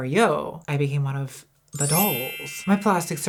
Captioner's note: chimes